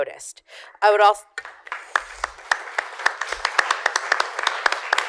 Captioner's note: applause